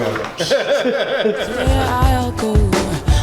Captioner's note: laughing; laughs